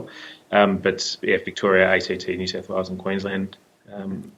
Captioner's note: murmurs